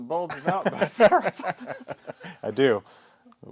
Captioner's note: both laughing